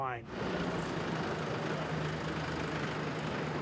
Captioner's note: engine hums